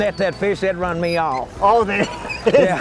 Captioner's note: laughter